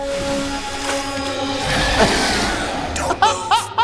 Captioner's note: liquid splashing; gonorrhea screeching; laughing